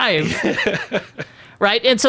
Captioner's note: laughing